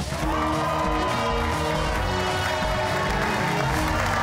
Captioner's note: cheers and applause